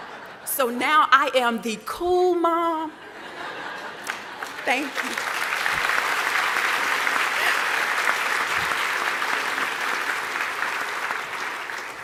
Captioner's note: applause